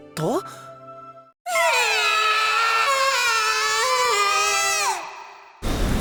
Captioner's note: sob